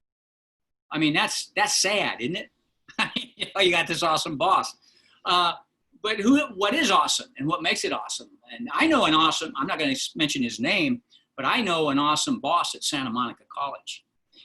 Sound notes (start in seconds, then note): 2.9 laughter